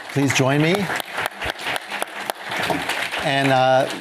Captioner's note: applause